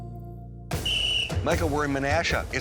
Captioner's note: sports whistle